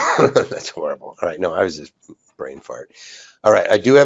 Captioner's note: laughs